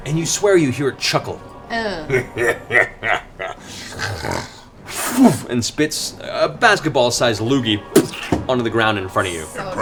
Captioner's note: chuckles